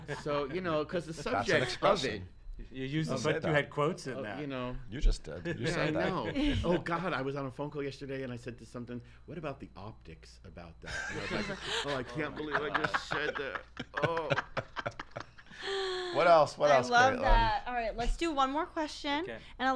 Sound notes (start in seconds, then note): 0.0 laughs; 13.5 laughs